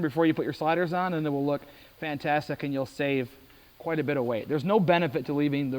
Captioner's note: none